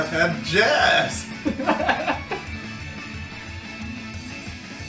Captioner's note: laughs